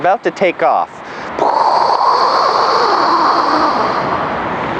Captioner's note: spaceship noise